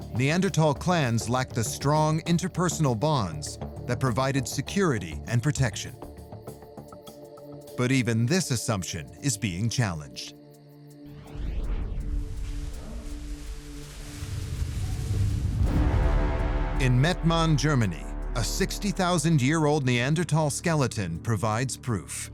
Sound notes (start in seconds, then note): 11.6 bubble wrap rustling; 15.2 ominous music